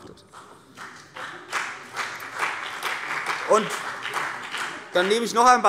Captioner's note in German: Beifall CDU und BÜNDNIS 90/DIE GRÜNEN